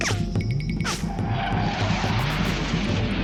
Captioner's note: jet engine whooshing